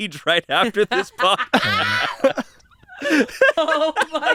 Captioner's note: everyone laughs